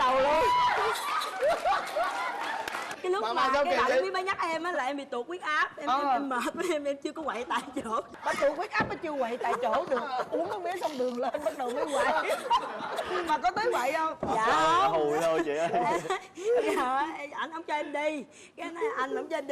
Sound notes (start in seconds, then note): 11.4 laughter